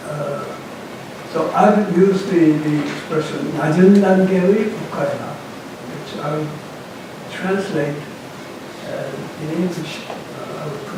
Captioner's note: korean